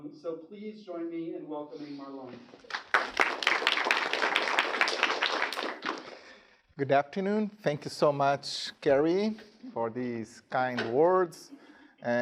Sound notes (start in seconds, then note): 2.6 students applauding